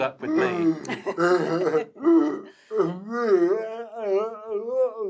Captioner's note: all laughs